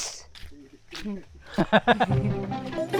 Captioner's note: laughs